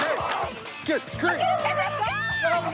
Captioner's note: screaming